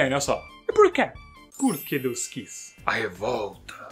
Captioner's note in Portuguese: som de magia de fada